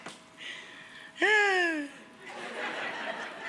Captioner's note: Rachael sighs; audience laughs